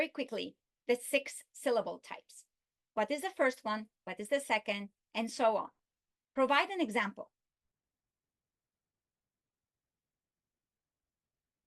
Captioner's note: pause